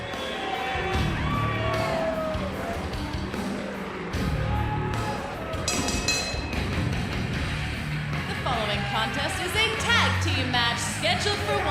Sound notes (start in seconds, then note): 5.7 bell ringing